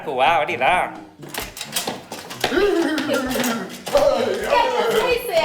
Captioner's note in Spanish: Sonido de caballo y jinete